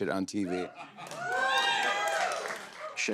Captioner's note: cheers and applause